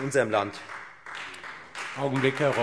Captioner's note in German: Beifall Freie Demokraten